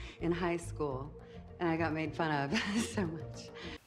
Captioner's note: laughs